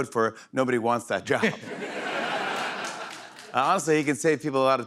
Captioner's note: laughter